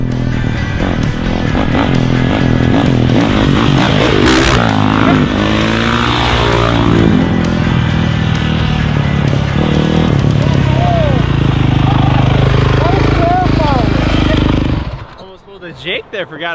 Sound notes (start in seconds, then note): 0.1 engine revving; 1.6 upbeat music; 5.2 engine revving